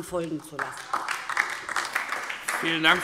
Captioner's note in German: Beifall DIE LINKE